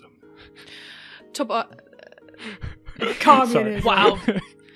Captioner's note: laughs like he's so proud of himself for that joke